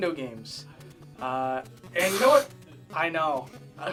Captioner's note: scoffs